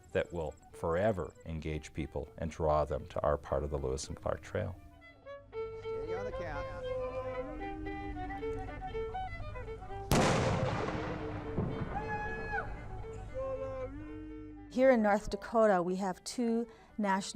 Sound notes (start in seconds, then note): 10.1 loud CRACK!!